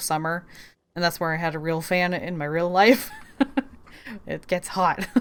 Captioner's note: laughs